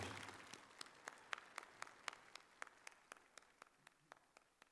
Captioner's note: applause